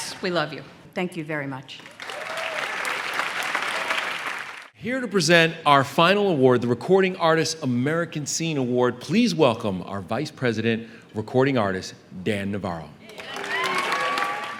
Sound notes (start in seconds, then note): 1.8 applause